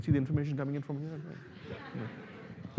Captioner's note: laughter